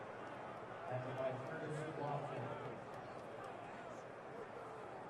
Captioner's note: pa announcement